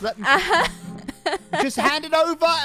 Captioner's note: laughing